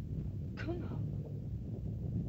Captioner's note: rumbling sound; Loana speaks in caveman language; volcano rumbles